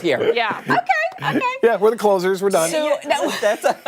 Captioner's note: laughter